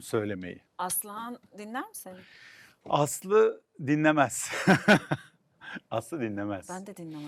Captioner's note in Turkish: kahkaha